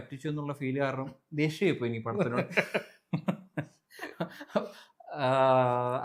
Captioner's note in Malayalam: പൊട്ടിച്ചിരി